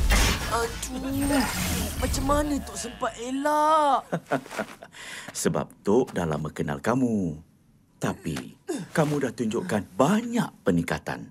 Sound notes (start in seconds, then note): 3.8 laughs